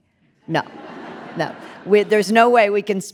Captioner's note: audience laughing